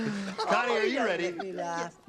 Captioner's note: laughing